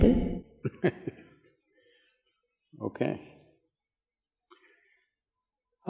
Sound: laughs

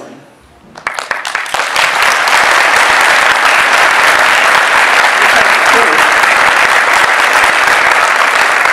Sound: audience bursts into applause

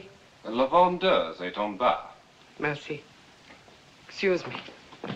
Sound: speaking French

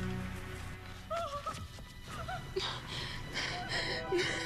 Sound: crying; Peggy sobbing

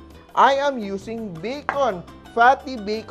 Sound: knock

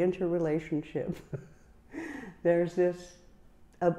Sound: chuckling

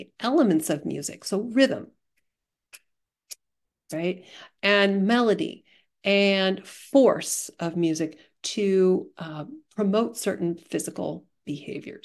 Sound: claps rhythmically

